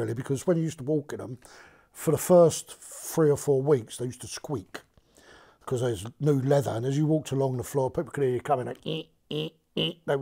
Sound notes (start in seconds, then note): none